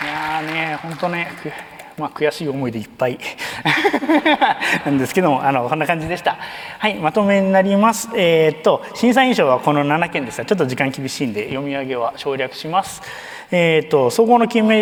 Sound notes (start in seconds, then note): 0.0 applause; 3.4 laughs